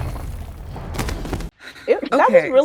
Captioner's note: Starlight thudding